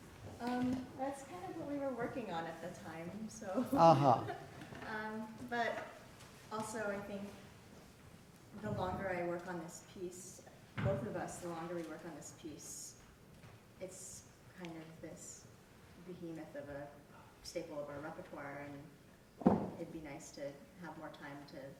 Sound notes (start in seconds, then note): 3.6 laughing